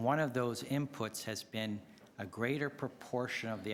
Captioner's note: none